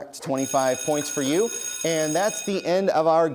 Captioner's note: bell rings